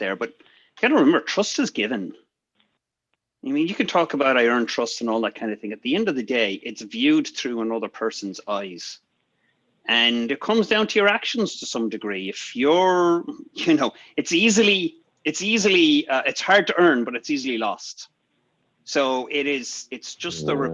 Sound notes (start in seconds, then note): 14.9 giggles